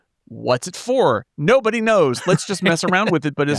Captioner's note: laughing